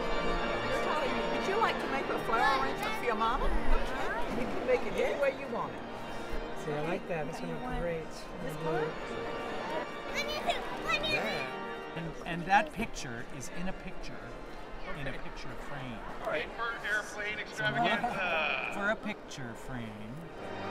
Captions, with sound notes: Would you like to make a flower arrangement for your mama? You can make it any way you want it. [General chatter, organ music] And that picture, is in a picture, in a picture frame Paper airplane extravaganza!